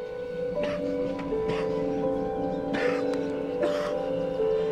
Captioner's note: coughs